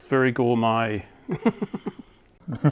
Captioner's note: laughing